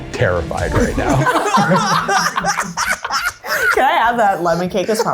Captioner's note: laugh